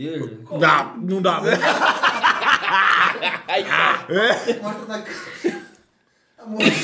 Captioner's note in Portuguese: risos